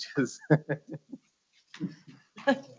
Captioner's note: laughs